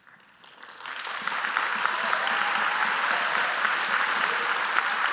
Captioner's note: applause